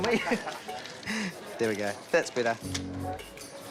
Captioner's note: laughs